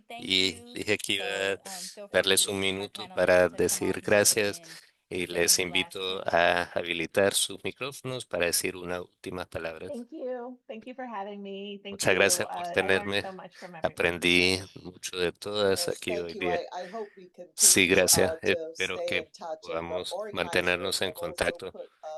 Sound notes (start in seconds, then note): 9.9 hablando inglés